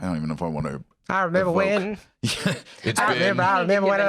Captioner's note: laughs